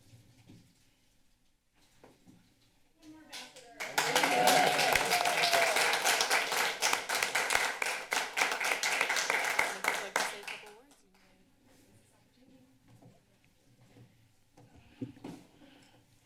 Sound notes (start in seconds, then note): 0.0 silence; 3.3 applause; 10.6 silence